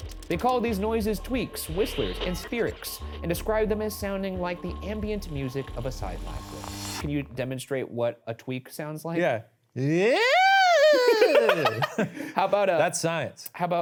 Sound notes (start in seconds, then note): 9.9 screams weirdly; 10.7 giggles